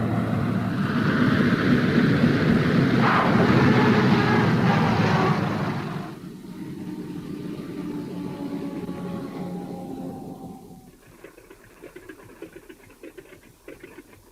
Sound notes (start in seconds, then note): 0.6 plane engine revving; 11.0 wheels rattling